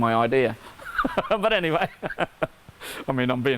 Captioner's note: laughing